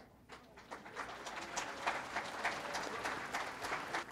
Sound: audience applauding

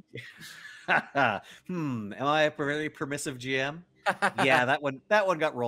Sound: laughs

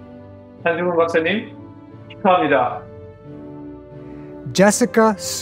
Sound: speaking in foreign language

